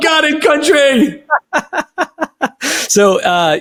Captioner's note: laughing